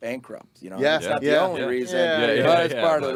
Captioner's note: group chattering